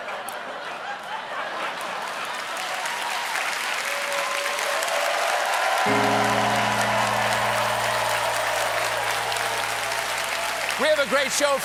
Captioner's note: laughter; cheers and applause